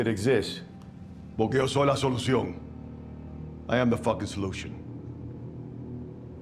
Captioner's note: speaking spanish